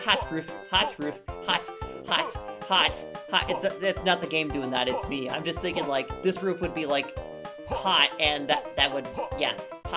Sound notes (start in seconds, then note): 3.4 stammering